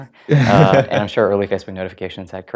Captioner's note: laugh